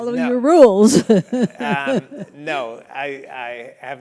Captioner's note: laugh